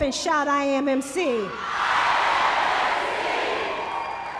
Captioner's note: applause